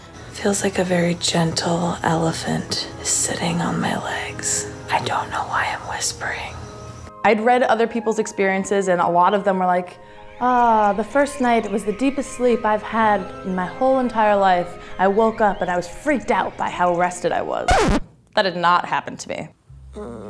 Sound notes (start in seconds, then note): 6.4 calm flute music; 10.4 birds chirping; 17.6 record scratch